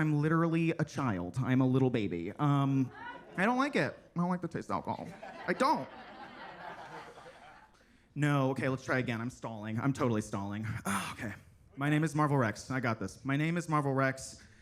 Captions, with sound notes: because I'm literally a child. I'm a little baby. (attendees laughing) I don't like it. I don't like the taste of alcohol. I don't. (attendees laughing) No. Okay, let's try again. I'm stalling. I'm totally stalling. Oh, okay. My name is Marval Rex. I got this. My name is Marval Rex